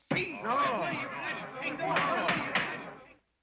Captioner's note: men chatter; gavel bangs